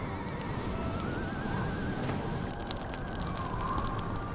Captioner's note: fire crackles